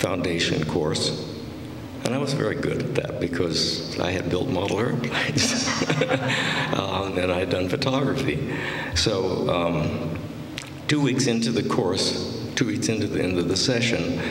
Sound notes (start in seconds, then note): 5.1 laughter